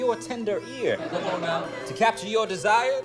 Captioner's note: laughter